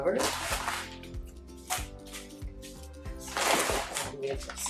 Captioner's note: rocks crunching